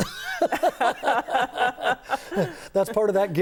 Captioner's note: laughing